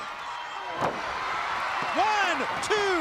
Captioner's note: crowd cheering